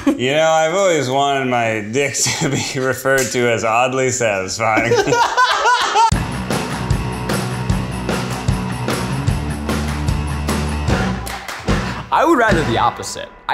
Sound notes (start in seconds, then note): 4.8 everyone laughing; 6.0 upbeat music